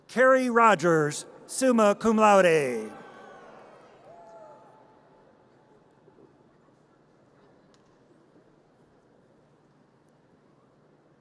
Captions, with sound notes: Carrie Rogers, summa cum laude. (audience cheers)